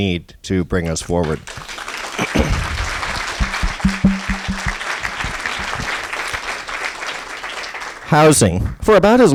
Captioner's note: applause